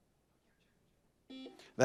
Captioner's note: buzzer buzzes